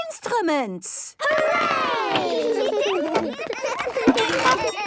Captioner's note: excited giggling